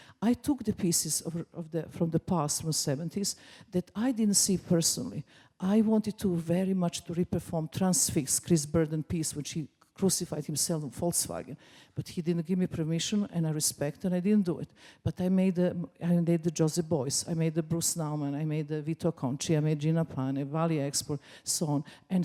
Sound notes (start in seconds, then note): none